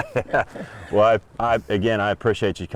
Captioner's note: chuckling